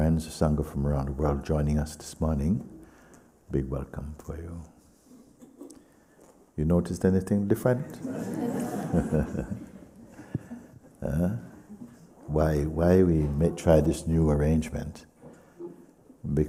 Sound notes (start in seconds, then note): 7.9 laughs; 11.3 laughter